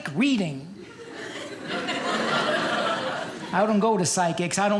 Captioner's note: audience laughing